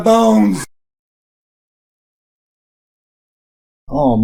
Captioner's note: silence